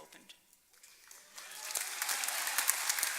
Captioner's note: applause